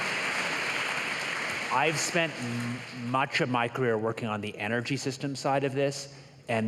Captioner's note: applause